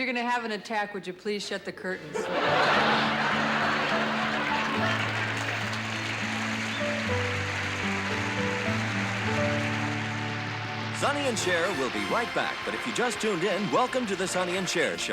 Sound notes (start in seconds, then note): 2.0 laughter; 3.3 melancholy music